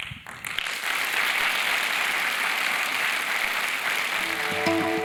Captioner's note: applause